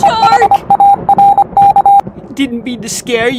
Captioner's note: robot beeping